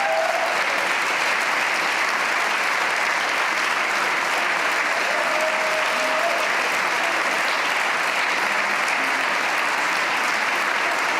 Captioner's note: cheers and applause